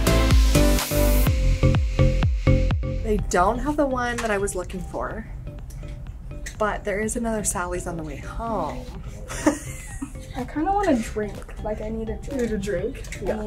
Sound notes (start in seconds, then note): 0.0 upbeat music continued; 9.2 laughs